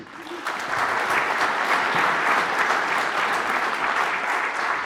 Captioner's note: audience applauding